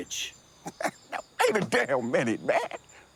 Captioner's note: laughs